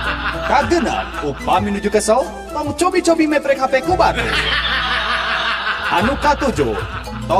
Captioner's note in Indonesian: tertawa; tertawa